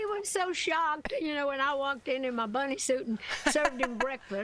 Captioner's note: laughter